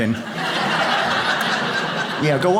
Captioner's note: audience laughs